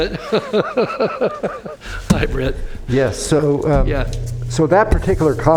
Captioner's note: laughter